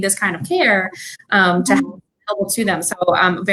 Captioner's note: computer static occuring